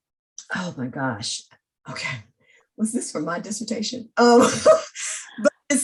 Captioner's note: laughs